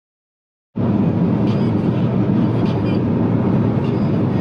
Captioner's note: car humming